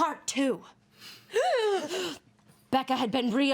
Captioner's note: women gasp